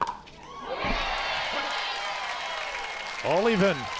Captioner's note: crowd cheers